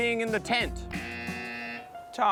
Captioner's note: buzzer